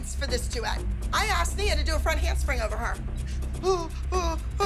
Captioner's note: mocking